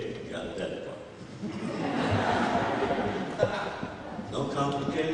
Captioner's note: laughter